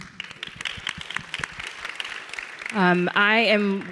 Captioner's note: audience and panelists clapping